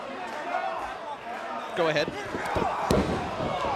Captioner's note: crowd chatter